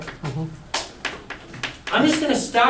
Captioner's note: voiceover